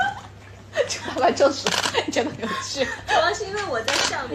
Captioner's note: laughing